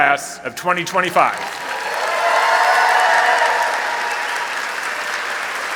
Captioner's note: applause and cheering